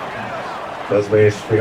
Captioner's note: crowd Noises